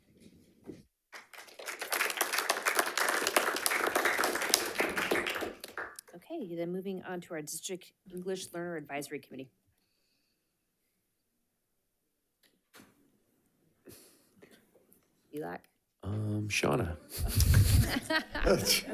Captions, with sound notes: (attendees clapping) - Okay, then moving on to our District English Learner Advisory Committee. Erik? - Shauna.